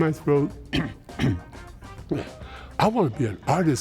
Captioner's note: clears throat